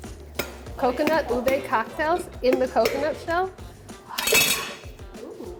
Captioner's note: whispers